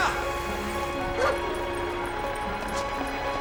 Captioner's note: barks